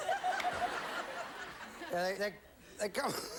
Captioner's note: audience laughing